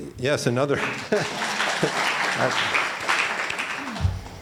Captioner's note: applauding